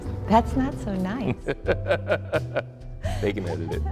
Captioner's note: laughs